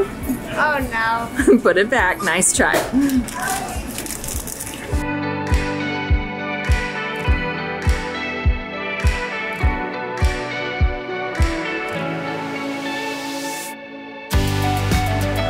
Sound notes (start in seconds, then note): 1.4 chuckles; 5.0 upbeat music